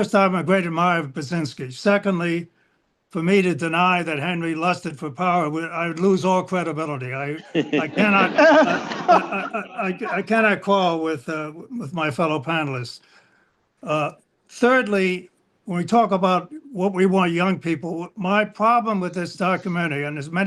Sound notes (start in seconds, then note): 7.3 laughter